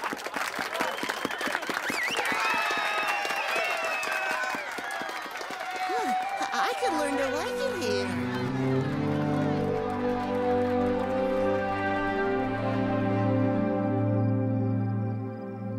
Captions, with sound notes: (WHISTLE AND CHEER) (CHEERING AND APPLAUDING) I COULD LEARN TO LIKE IT HERE.